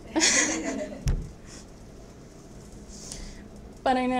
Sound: laughs

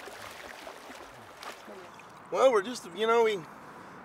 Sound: fish splashing

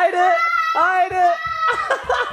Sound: yelling

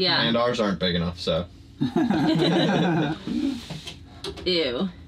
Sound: everyone laughing

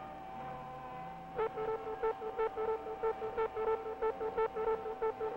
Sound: alarm ringing

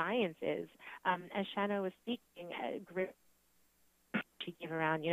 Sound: static

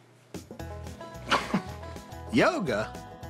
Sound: laughs

